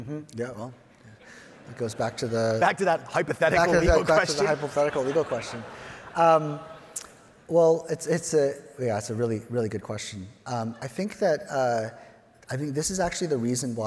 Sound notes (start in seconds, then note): 1.2 audience chuckles; 3.5 chuckles; 6.2 audience laughing